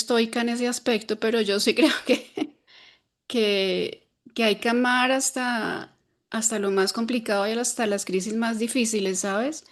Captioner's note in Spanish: risas